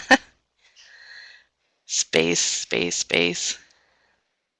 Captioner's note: laughs